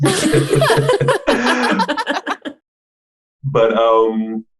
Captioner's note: all laughing